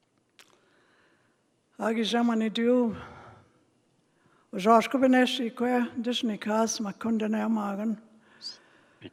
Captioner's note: speaking Indigenous language